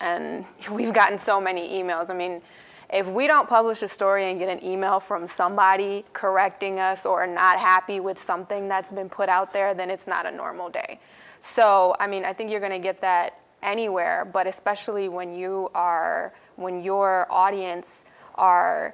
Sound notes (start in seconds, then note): none